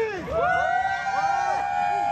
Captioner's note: cheering